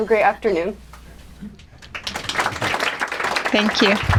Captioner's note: applause